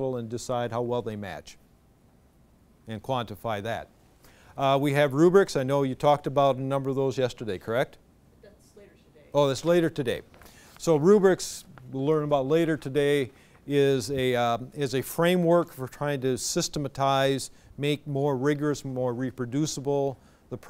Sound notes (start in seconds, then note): 8.5 voiceover